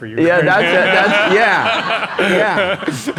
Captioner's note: laugh